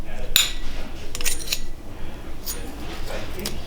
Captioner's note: metal clicking